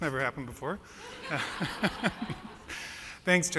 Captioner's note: laughs